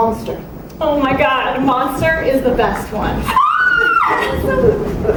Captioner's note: overenthusiastic shriek of joy